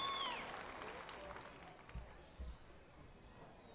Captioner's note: applause